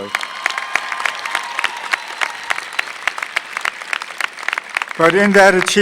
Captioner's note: applause